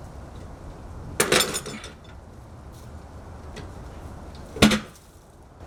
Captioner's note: metal clanking